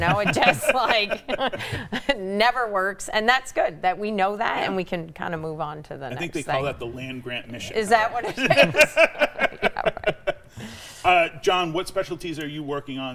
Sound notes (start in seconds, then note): 9.0 laughs